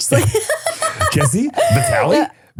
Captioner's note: person laughing